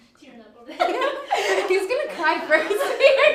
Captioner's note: laughter